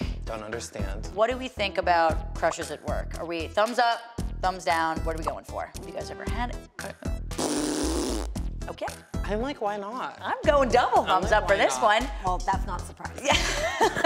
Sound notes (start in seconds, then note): 7.3 blows raspberry; 13.3 laughs